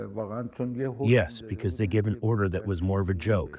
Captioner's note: through translator